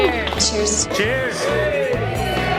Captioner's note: cheers